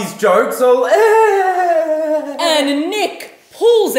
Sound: imitates fake laughter

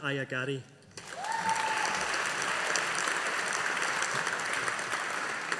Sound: audience applauding

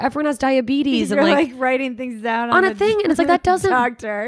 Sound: laughs

